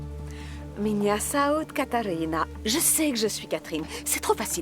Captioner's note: speaking Russian